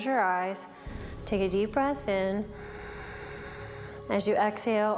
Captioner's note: breathes